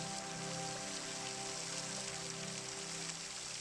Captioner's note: waterfall sounds